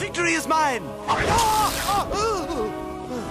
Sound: screams of worry

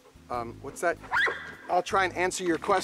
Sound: dog barks

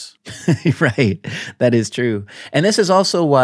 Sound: chuckles

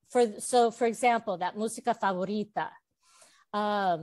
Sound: Spanish

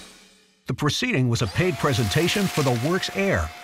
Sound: voiceover

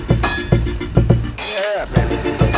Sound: breaking glass

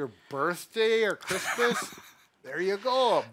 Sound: laughing

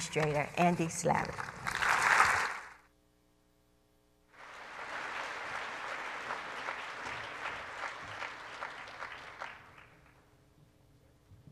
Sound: applause

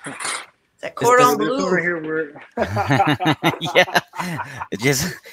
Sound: men laughing

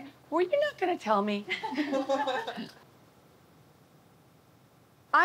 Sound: laughter

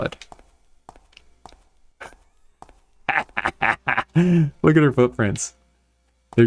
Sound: laughter

